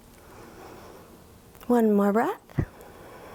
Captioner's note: inhales